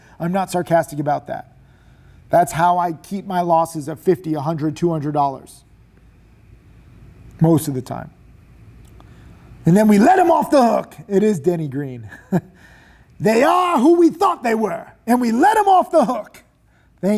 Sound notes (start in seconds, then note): 12.0 chuckling